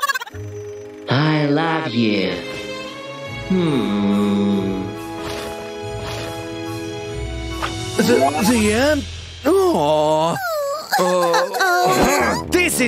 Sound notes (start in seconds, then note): 10.2 crying